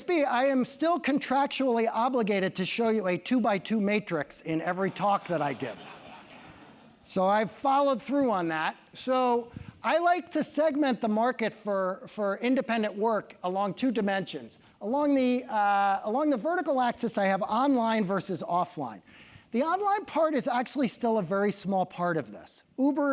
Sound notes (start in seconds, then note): 6.2 laugh